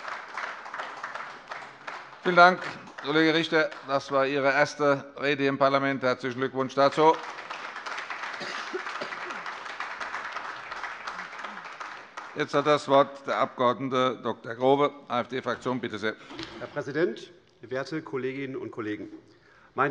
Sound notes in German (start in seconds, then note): 6.3 Beifall AfD, vereinzelt SPD und Freie Demokraten